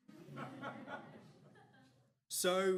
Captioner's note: audience laughs